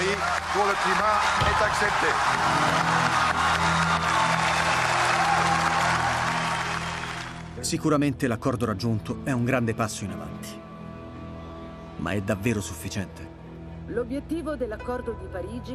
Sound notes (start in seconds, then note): 2.0 applause